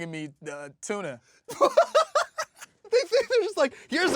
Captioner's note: laughing